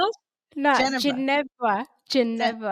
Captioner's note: laughing